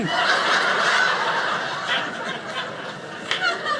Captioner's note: audience laughing